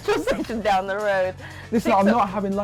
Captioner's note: laughs